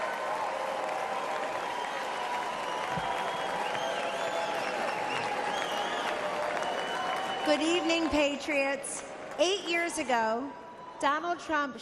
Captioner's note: cheers and applause